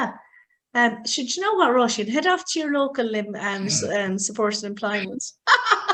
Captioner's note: laughs